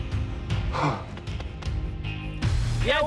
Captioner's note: sighs